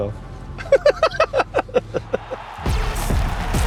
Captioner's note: chuckles; laughs; crowd cheering; energetic music playing